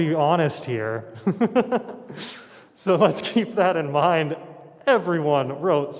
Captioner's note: laughs